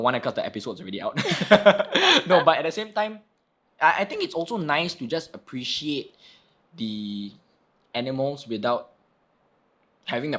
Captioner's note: laughing